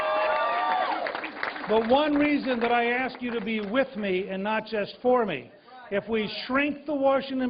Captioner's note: applause